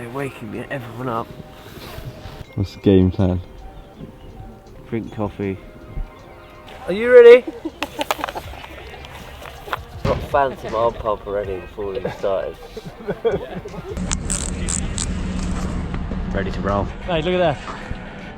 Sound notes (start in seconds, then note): 13.3 people laughing